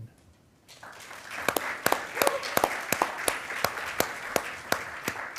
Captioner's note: attendees applauding